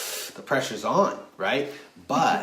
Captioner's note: hissing sound